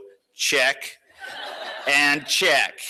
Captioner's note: laughter